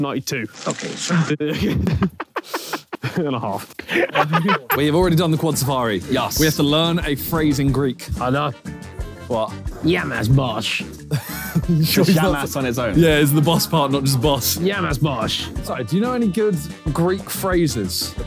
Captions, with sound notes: - 92. - Okay. [laughing] - And a half. [continues laughing] - We have already done the quad Safari. - Yes. - We have to learn a phrase in Greek. - I know. - What? - Yamas bosh. [wheezing] - Just yamas on its own. - Yeah, it is the boss part not just boss. - Yamas bosh. - Sorry, do you know any good Greek phrases?